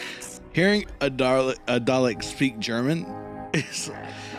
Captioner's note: tiny laugh